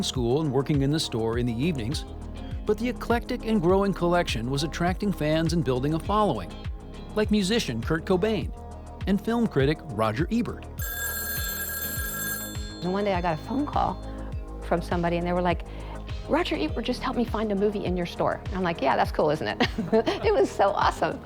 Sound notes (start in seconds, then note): 10.8 telephone ringing; 19.6 chuckles